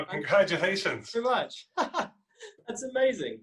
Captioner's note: laughs